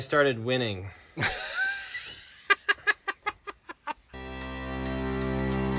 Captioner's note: laughing; intro music